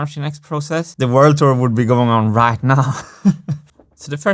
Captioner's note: chuckles